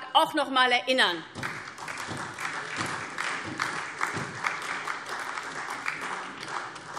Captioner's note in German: Beifall SPD und vereinzelt DIE LINKE